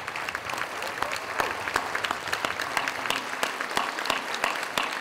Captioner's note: audience applauding